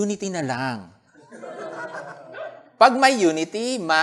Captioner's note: laughter